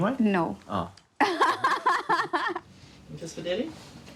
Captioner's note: laughs